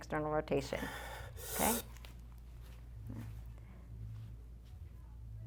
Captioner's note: breathes heavily